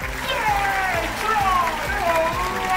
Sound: audience cheering

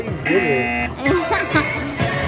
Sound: machine buzzing; laughing

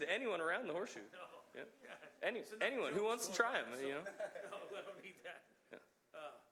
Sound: laughter

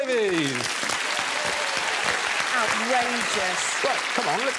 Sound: audience applause

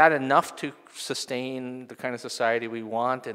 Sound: none

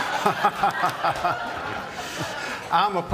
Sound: laughter

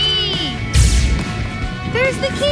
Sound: magical sound

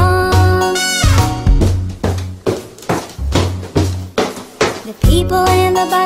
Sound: feet stomping

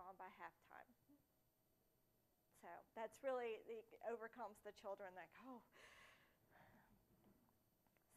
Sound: gasp

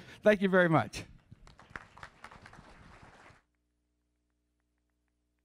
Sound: applause

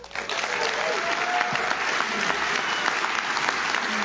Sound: audience claps

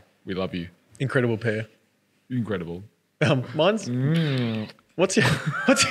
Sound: smooching

